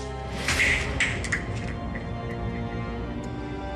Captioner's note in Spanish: ruido al caer el tubo